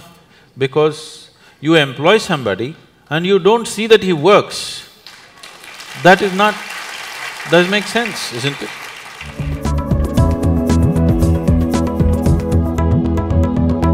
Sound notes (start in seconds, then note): 8.3 applause